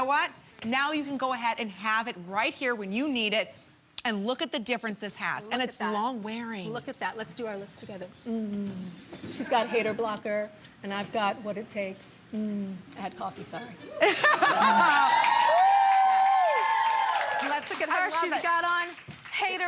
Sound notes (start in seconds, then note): 14.6 applause